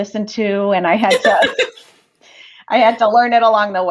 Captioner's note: laughter